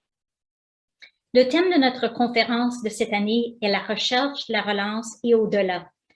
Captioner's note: speaking foreign language